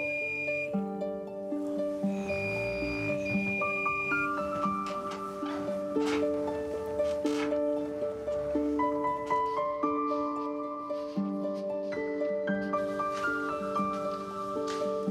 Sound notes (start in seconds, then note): 2.2 gadget buzzes; 4.1 thoughtful piano music; 12.8 piano music continues